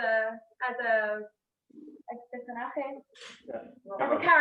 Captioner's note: questions in spanish